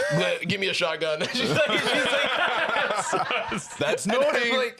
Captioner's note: all laughing